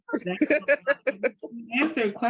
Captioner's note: laughing